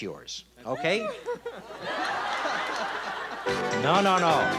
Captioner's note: audience laughs